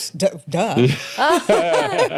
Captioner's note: laughing